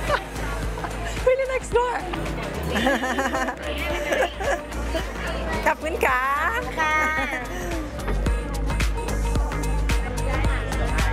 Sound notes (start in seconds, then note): 2.6 laughs